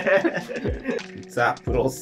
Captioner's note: laughing